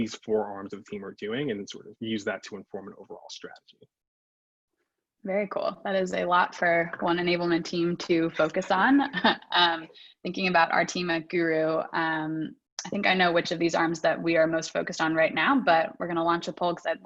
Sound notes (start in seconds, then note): 8.3 laughs